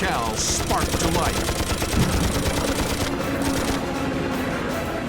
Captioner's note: guns firing